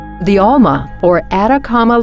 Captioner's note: voiceover